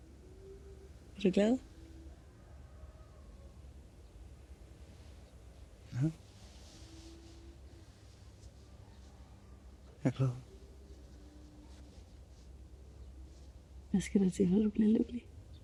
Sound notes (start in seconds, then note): none